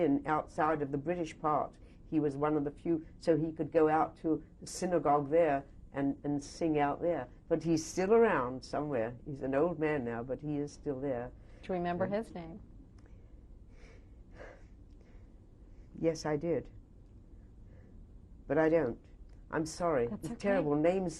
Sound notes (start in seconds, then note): 14.3 sighs